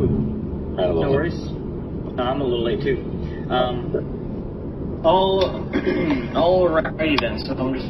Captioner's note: clears throat